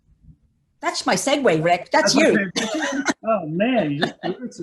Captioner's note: laughs